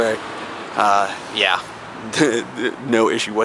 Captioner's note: chuckles